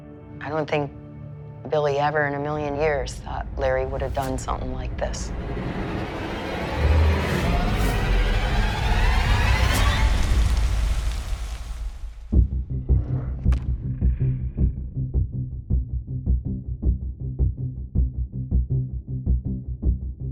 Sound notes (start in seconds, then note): 5.4 suspenseful music climbs; 9.7 flames crackling; 9.7 suspenseful chord strikes